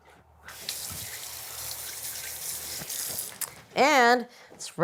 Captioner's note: water whooshing